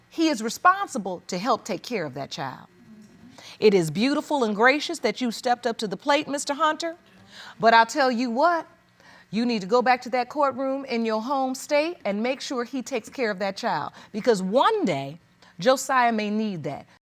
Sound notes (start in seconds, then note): none